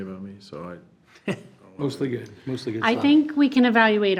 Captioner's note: chuckles